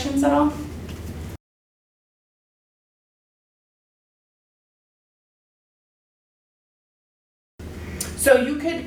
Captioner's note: silence